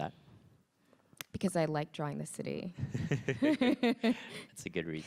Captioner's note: chuckles